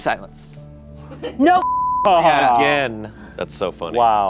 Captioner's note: beep